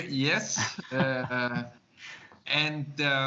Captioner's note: laughs